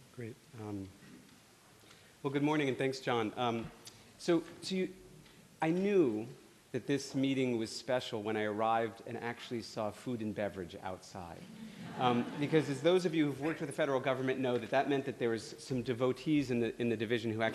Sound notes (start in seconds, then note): 11.4 laughter